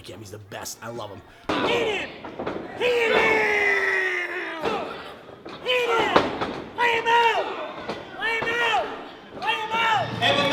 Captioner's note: old man cheering